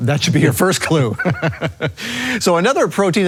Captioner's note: laughs